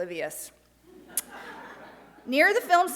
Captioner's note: light laughter